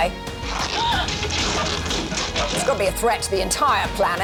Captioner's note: gasps